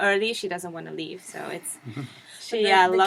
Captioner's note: laugh